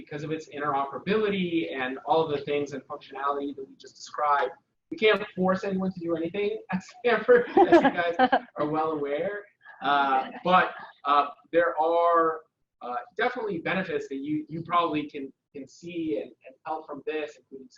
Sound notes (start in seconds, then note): 7.4 laughs